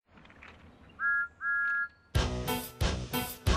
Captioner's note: thomas whistles